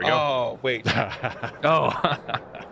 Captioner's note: laughter